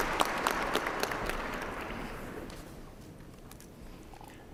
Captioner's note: applause